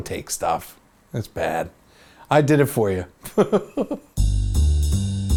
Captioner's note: laughs